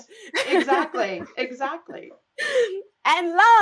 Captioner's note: laughs